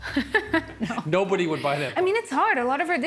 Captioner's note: laughing